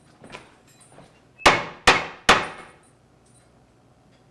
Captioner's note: knocking